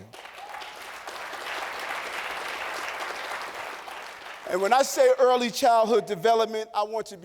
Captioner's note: applause